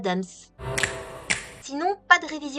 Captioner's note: snap-snap